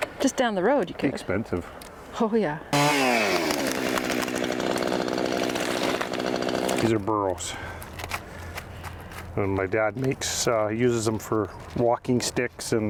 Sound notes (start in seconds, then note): 6.7 chainsaw whirs